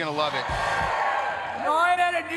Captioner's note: crowd cheers